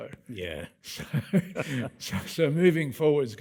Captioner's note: both laughing